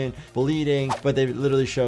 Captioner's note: video whooshes